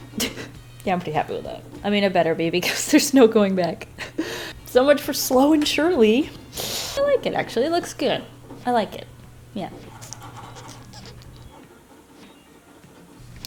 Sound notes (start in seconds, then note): 2.4 laughs; 4.0 nervous inhale